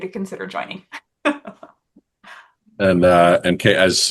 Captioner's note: laughing